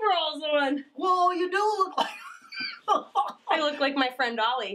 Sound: laughs

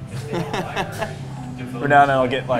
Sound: laughs

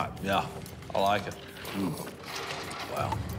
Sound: slurps drink

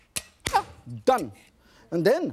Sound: bang

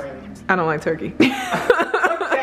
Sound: laughing

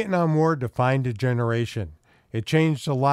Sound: voiceover

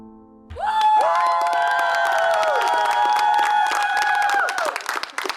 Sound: cheering and applause

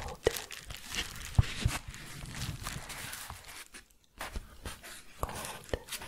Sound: shuffling and crinkling

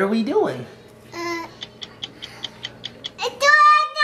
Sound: clock ticking

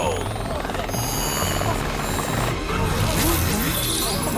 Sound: devices charging up

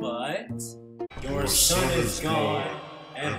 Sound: ghostly tone

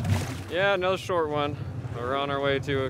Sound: fish splashing

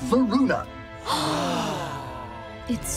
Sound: gasping

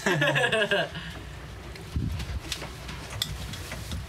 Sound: both laughing

